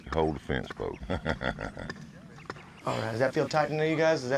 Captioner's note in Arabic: يضحك